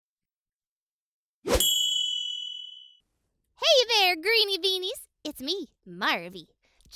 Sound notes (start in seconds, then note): 0.4 air whooshing; 1.6 bell dings